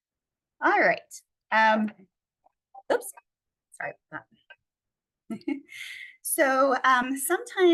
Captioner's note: chuckles